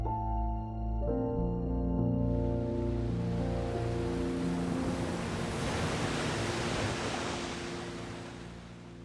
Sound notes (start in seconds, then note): 2.6 waves splashing